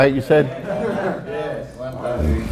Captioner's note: students laugh